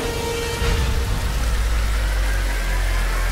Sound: water gushing

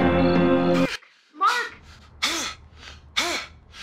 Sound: Mark yelling

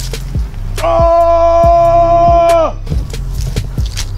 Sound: Drek ogre roar

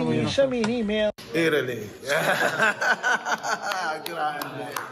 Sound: laughter

